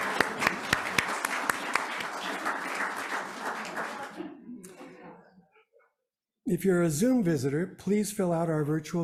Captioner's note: applause